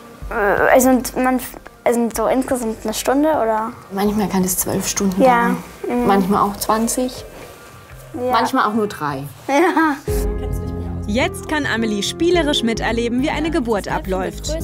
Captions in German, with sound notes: Äh, also ... so insgesamt eine Stunde, oder ... Manchmal kann das zwölf Stunden dauern. - Ja, mhm ... Manchmal auch 20. - Ja. Manchmal auch nur drei. - (lacht:) Ja. Jetzt kann Amelie spielerisch miterleben, wie eine Geburt abläuft.